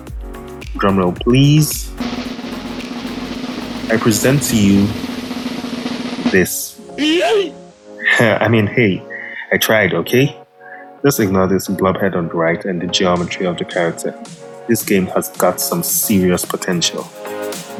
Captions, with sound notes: Drumroll please... I present to you... this *Sighs Nervously* I mean, hey, I tried okay? Just ignore this blob head on the right and the geometry of the character, this game has got some serious potential